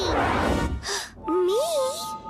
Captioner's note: Eileen gasps